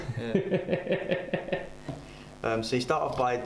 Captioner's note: laughs